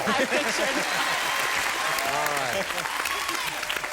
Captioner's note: applause